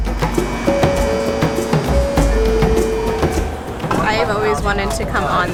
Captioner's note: subway door chimes